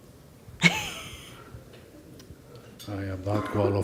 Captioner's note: laughing